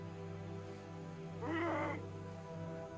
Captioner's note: grunts